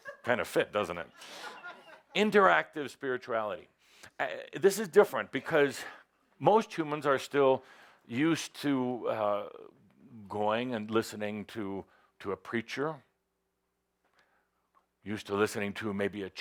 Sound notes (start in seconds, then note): 1.0 laughter